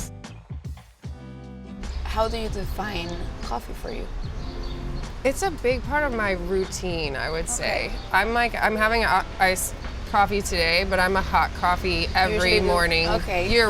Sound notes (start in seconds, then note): 5.3 birds chirping